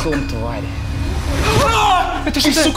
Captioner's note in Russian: крик